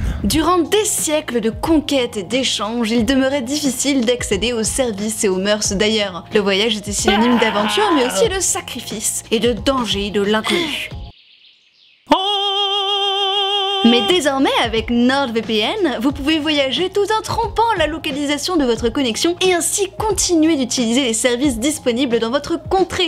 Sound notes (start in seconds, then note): 12.0 with an opera voice